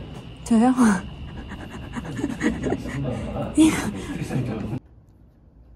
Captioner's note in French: rire nerveux